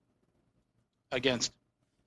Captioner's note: speaking French